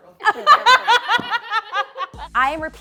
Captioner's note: all laughs